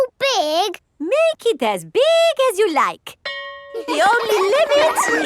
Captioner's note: school bell rings; children laughing